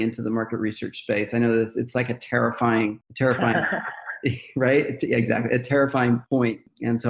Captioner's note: laughter